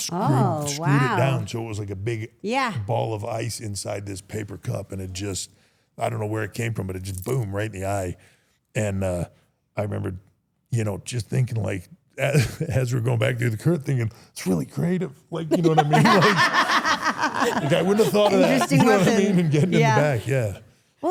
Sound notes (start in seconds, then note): 15.5 everyone laughs